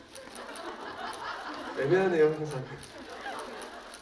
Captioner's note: laughs